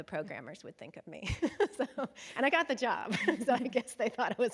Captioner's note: chuckles